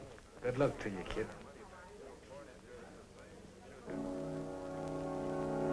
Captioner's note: chattering